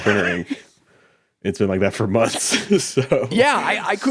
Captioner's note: laughs